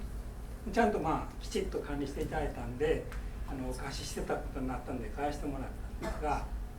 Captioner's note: speaking in foreign language